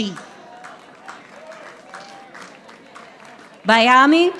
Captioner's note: audience applauding